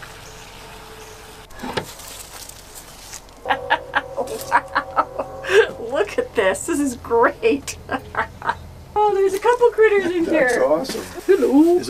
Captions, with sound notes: [ laughter ] Wow! Look at this. This is great! Oh there's a couple critters in here. -That's awesome.